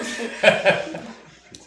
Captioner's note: laughing